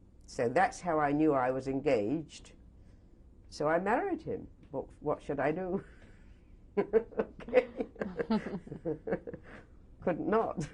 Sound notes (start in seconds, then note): 6.8 laughter; 6.8 laughs